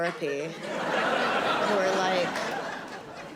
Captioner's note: audience laughing